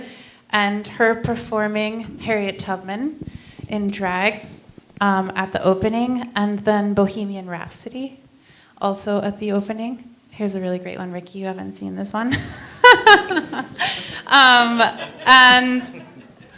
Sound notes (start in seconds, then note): 12.8 laughs; 13.9 laughter